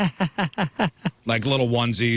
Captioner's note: laughing